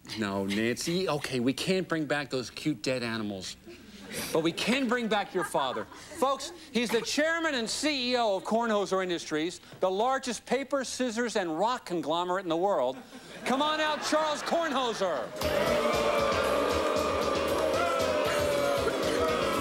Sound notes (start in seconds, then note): 15.2 audience booing